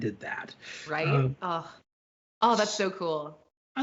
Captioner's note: sighs